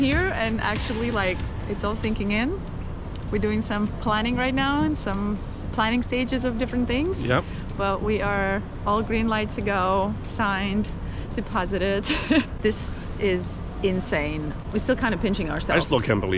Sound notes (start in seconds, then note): 12.4 laughs